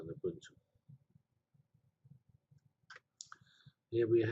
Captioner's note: pause